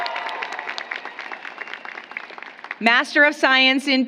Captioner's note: applause